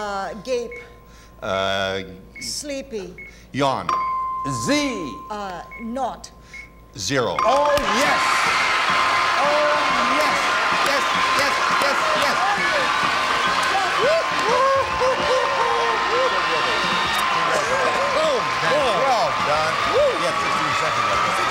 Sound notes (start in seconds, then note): 11.0 applause